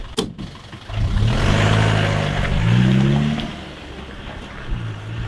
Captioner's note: vehicle engine roaring